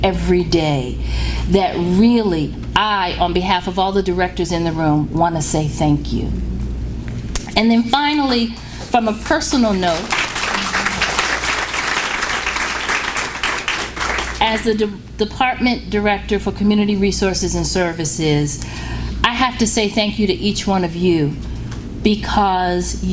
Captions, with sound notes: every day, that really I, on behalf of all the directors in the room, want to say thank you. And then finally, from a personal note... >>:(APPLAUSE) >>:...As a department director for community resources and services, I have to say thank you to each one of you because